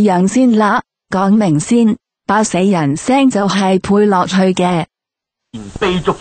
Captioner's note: dubbing voice